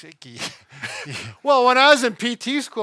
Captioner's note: both chuckles